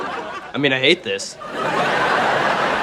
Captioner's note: laughing